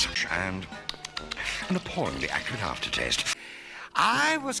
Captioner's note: smacking lips